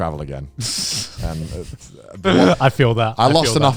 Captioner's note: laugh